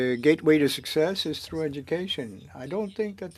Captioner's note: speaking French